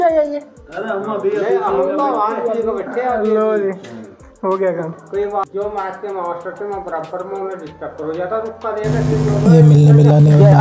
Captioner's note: sipping tea having chit - chats and sharing old stories